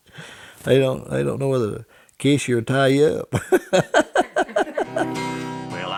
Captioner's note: laughter